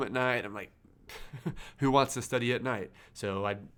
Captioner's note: laughs